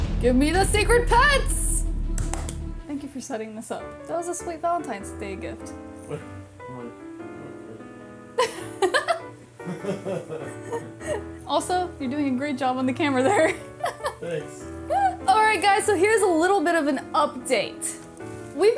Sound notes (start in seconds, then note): 2.2 claps; 6.3 DJ murmurs; 8.4 laughs; 13.8 laughs